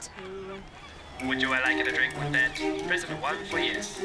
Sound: robot Voice

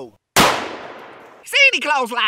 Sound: gun fires

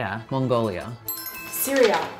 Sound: bell sound

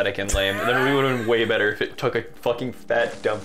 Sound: wheeze; wheeze

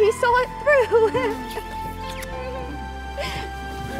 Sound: kissing

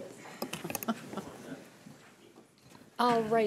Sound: chuckling

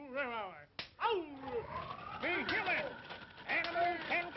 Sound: whipping; phonograph Recording

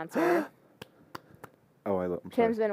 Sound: gasp

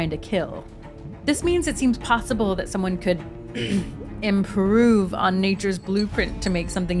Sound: ahem

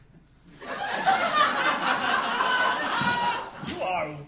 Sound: audience laughing

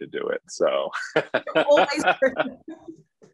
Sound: laughing

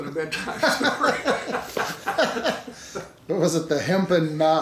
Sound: laughing

